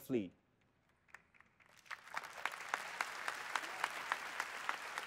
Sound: applause

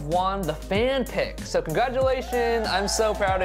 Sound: fans cheering

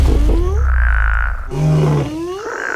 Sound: whooping; roars; croaks; frog croaks

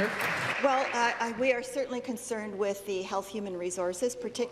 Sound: applause

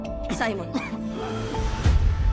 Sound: cough; bang

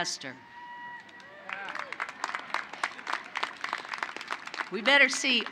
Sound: applause

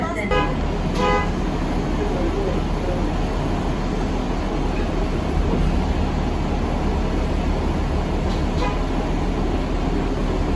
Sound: bus Driver blasts horn a couple times as bus reverses

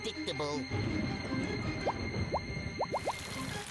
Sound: thunder rumbling

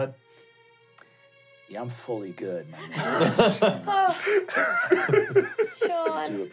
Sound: laughing

